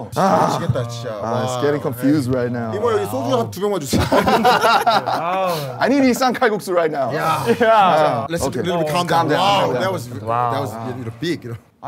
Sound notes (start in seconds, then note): 3.9 sound of laughter